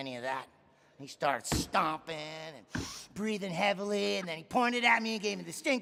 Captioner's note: inhales